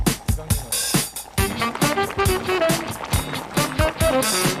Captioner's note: bubbling